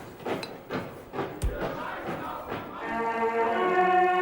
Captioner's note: marching and shouting continues